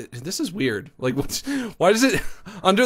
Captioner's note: laughs